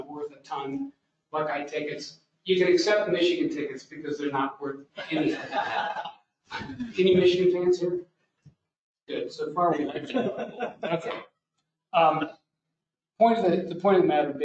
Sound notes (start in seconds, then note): 5.0 laughter